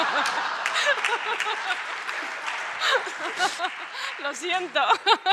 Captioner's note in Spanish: Aplausos